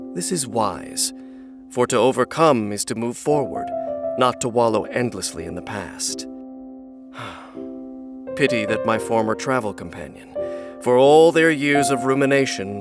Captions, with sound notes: This is wise For to overcome is to move forward Not to wallow endlessly in the past *sigh* ...Pity that my former travel companion, for all their years of rumination